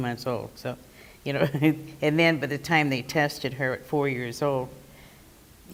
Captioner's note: laugh